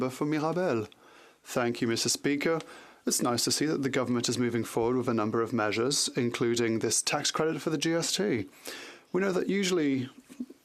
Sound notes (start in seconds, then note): 3.3 speaking French